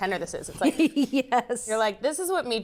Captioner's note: laughs